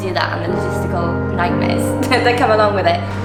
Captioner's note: laughs